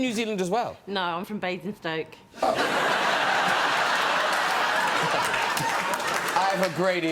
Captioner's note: audience laughing